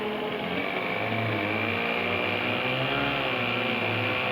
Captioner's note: engine roaring